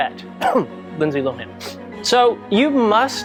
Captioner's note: coughing